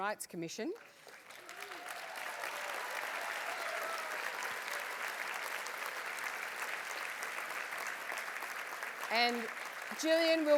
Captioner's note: applause